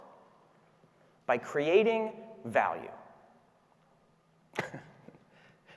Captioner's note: laughs